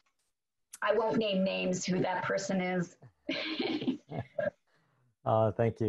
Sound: laughs

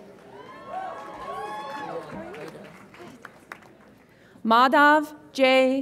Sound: audience applauds and cheers

